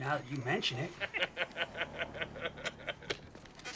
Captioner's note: laughter